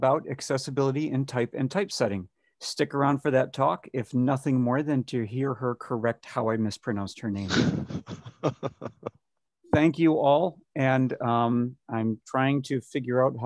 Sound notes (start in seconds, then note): 7.5 laughing